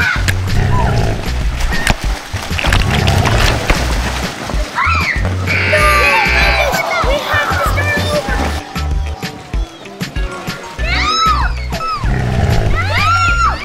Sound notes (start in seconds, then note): 0.3 grrr, grrr!; 5.5 buzzer